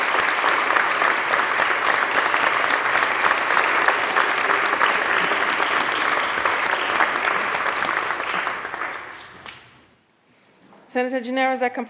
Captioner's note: applause